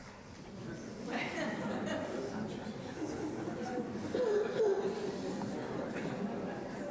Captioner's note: audience murmurs; audience members laugh